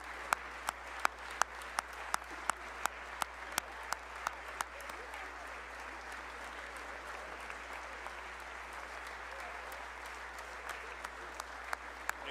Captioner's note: applause